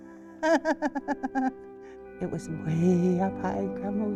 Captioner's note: laughs